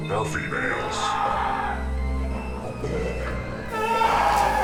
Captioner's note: victim screaming